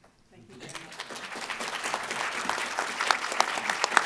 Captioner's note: clapping